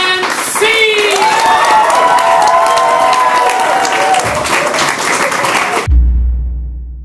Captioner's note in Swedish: applåder och jubel